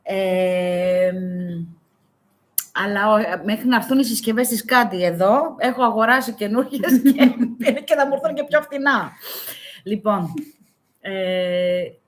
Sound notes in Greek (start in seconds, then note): 6.8 γέλια